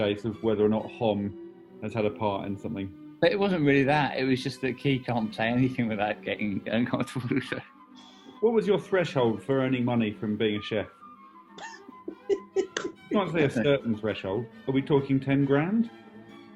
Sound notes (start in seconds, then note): 7.9 exhales; 11.6 laughing